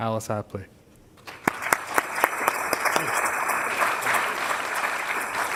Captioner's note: applause